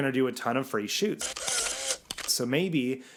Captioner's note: shutter click